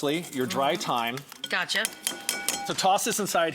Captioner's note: microplane clinks